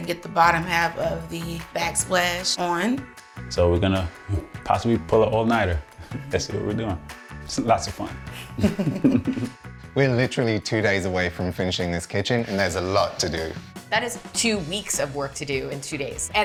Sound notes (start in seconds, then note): 8.3 both laughing